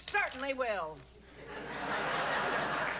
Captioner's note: laughter